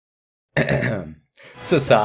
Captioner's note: clears Throat